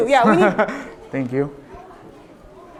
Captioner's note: laughter